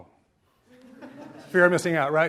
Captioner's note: audience laughs